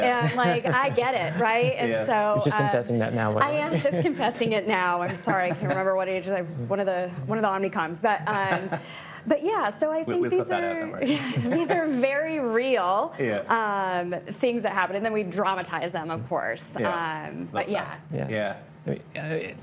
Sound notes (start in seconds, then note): 8.2 laughing; 11.0 chuckles